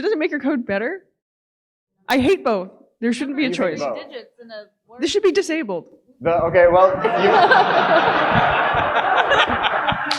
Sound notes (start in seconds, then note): 6.9 audience laughing